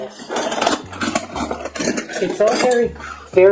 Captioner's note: sound of flatware getting rattled around